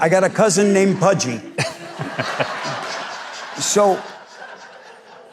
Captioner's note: crowd laughs